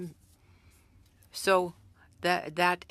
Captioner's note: speaking french